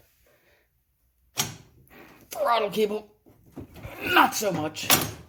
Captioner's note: straining